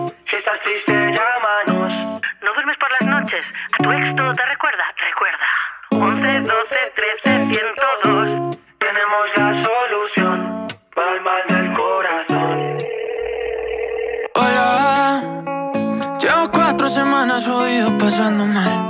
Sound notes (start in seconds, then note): 12.3 timbre de llamada de teléfono